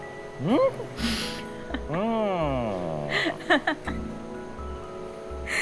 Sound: Maanu laughing

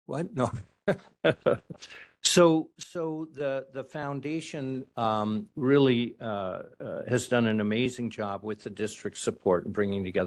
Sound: laugh

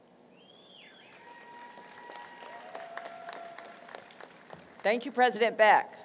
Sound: applause, Cheering

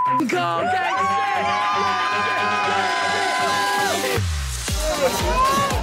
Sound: everyone cheering; techno music

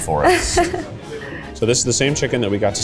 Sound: laughs

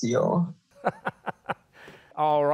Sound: laughing

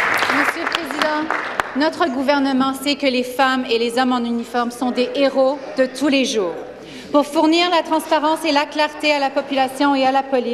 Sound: some Applause

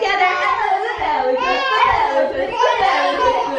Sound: babbling

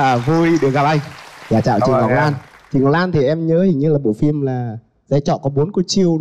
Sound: applause

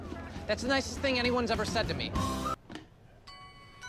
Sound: none

